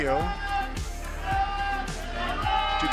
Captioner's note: cheering